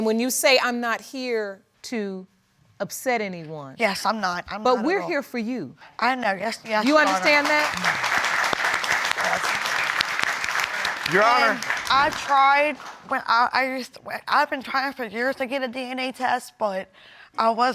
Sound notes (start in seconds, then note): 8.5 applause; 13.2 stuttering